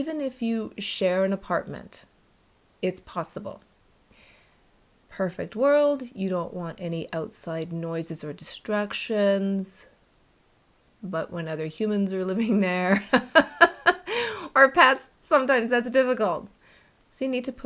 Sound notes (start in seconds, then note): 12.9 laughter